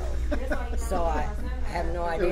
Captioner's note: laughs